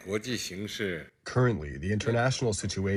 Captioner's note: through translator